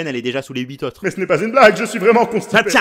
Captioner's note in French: grosse voix